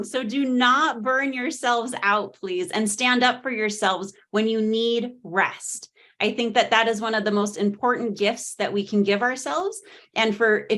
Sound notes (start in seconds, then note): none